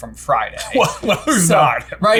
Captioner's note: laughing